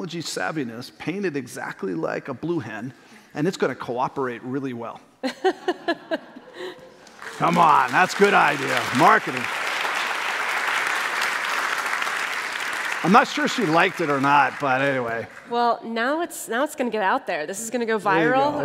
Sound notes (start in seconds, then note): 5.2 laughter; 10.8 applause